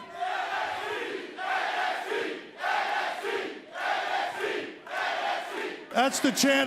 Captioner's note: crowd cheering